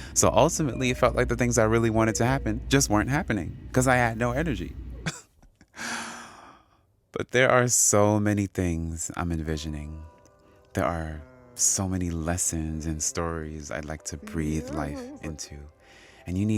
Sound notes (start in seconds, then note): 5.0 laughter